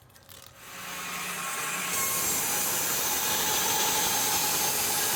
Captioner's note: sawmill sawing